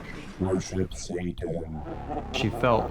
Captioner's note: deep voices whisper; deep Distorted Voice; laughs